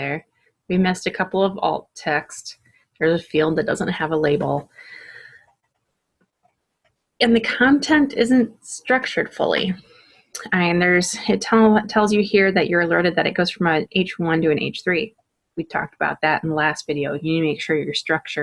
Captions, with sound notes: We missed a couple of alt texts. There's a field that doesn't have a label. [pause] And the content isn't structured fully. I mean there's a/ it tells you here that you're alerted that it goes front an h 1 to an h 3; we talked about that last video. You need to make sure your structure